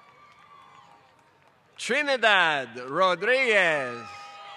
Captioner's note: applause